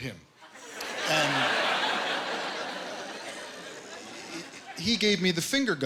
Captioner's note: laughter